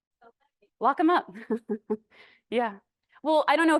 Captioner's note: laughs